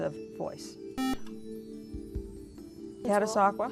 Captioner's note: buzzer